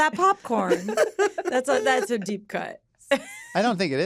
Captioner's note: laughter; laughs